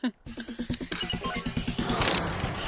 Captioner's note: sneaky sounds of cheating